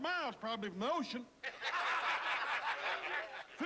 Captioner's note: laughing